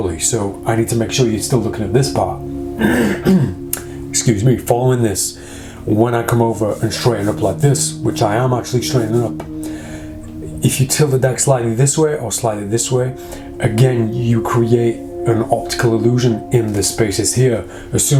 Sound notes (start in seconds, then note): 2.8 clearing throat